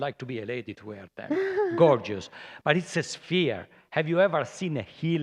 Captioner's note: laughter